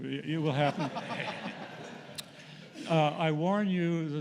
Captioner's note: laughter